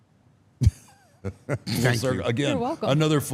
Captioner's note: laughs